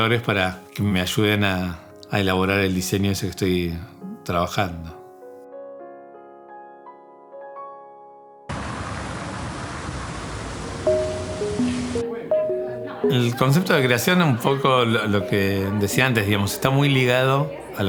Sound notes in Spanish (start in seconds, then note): 5.0 música de piano; 8.6 sonido ambiente calle